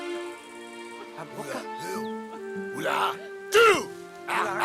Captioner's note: foreign spoken audio